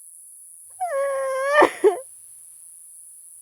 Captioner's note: sobbing